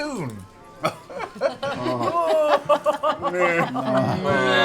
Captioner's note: noncommittal groans